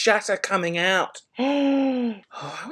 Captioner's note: gasps